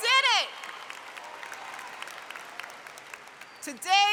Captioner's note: applause